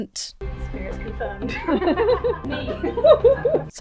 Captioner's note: group laughs